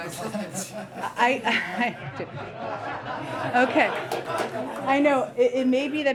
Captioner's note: laughter